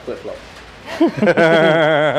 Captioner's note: laughing